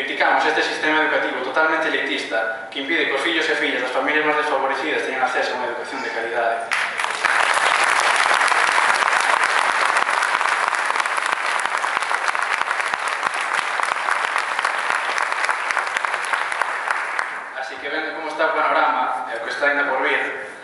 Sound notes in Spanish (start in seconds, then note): 6.7 Aplausos